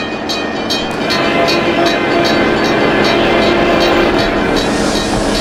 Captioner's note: H-24-66 Trainmaster horn, diesel engine rumbling; H-24-66 Trainmaster horn; diesel engine rumbling, H-24-66 Trainmaster horn